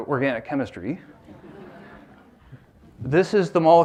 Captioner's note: laughter